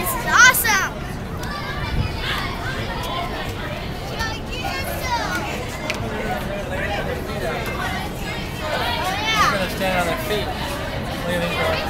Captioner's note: crowd chatter